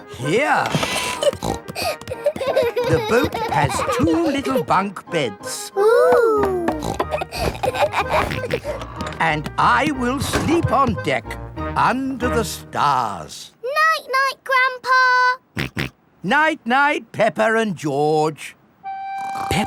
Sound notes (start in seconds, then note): 0.8 snorting; 1.7 kids giggling; 6.6 snorts, laughs; 15.7 snorts